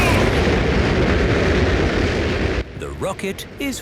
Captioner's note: rockets blasting